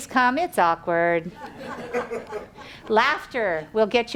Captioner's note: audience laughs